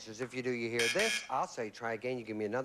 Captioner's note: buzz buzz